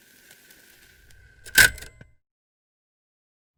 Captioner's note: recorder clicks off